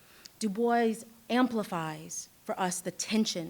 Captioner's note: none